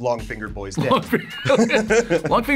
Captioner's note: laughs